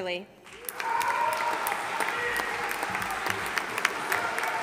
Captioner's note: audience applauding